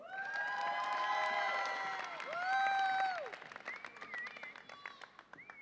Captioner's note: audience applauds and cheers